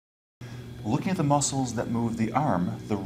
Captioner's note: voiceover